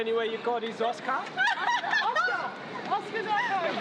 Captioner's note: laughs